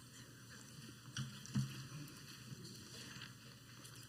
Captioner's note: footsteps